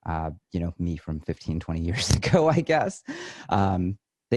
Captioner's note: chuckles